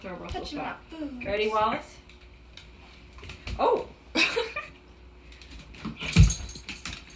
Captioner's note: laughing